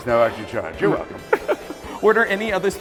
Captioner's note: laughs